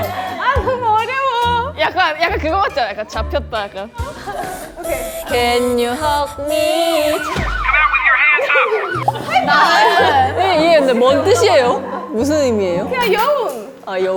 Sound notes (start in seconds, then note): 8.9 failed by laughing